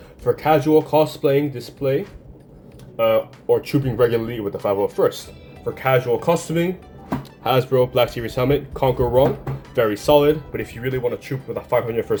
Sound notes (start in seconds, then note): 7.0 smack smack